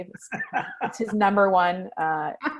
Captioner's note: laughs